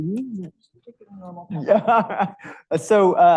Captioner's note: speaks faintly; laughs